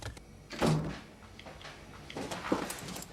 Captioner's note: door clicking